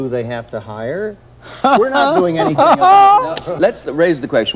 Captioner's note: laughing